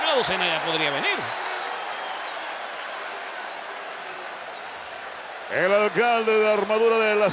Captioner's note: applause